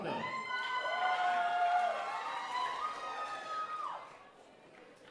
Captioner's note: audience cheering